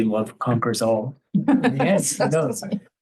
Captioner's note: laughter